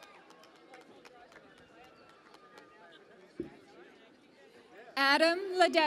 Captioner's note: cheering and Applause